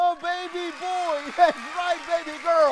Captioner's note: crowd cheers